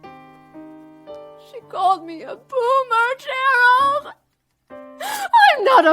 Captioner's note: cries